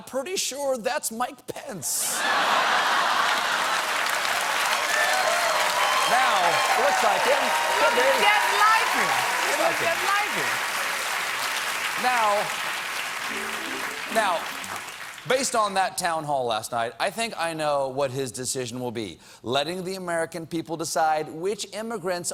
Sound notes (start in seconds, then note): 2.1 cheers and applause